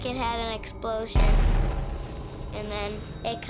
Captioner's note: booming